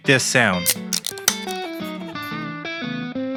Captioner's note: beer can opening